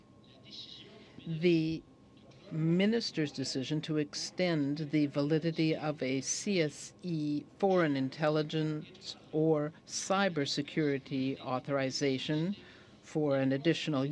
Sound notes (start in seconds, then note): 0.9 speaking in french